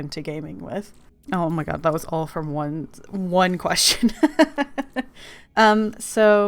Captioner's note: laughs